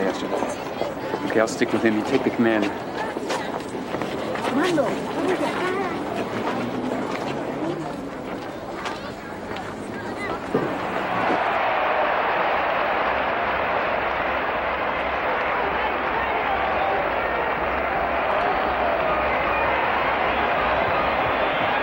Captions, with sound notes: in the parking lot yesterday. - I'll stick with him, you take the Commander. (crowd cheering) (audience applauds and cheers)